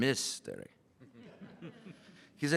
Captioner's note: laughter